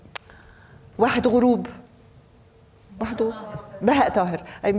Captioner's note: speaking foreign language